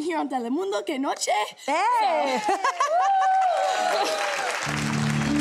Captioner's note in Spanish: Ovación